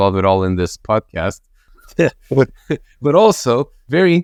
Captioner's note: laughs